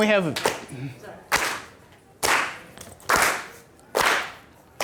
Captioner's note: clapping